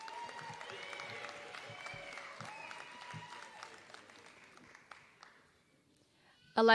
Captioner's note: applause